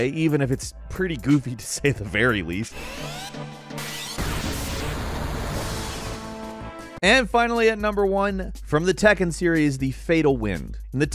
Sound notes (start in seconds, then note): 2.6 dramatic music; 3.0 cannon whirring